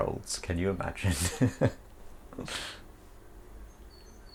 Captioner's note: laughing